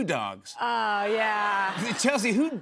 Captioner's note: laughter